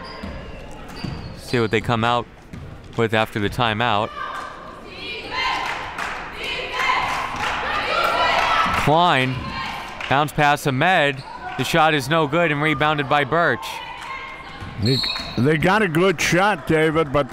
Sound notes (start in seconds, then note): 5.6 claps; 14.8 referee blows whistle